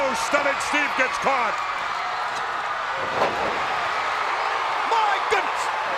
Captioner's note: crowd cheering